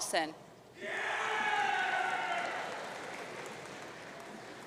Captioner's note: audience cheering